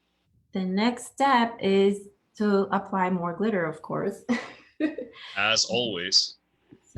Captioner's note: chuckles